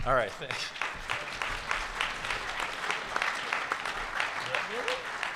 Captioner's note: audience applauds